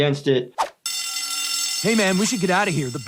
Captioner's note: alarm sounds